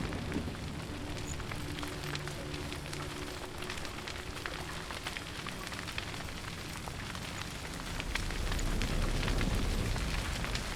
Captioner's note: sound of flames crackling grows louder